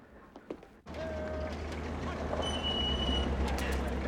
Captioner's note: officer Shouting Commands